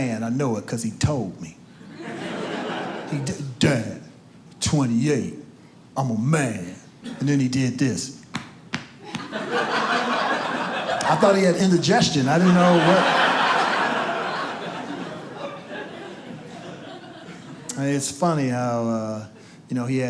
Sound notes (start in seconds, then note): 8.7 audience laughs; 14.0 audience laughs